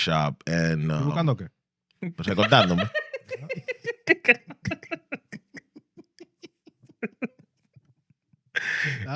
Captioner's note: speaking In Foreign Language; laughing